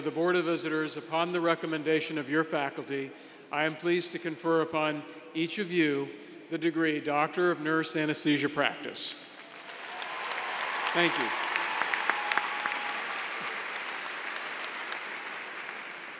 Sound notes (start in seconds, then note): 9.3 applause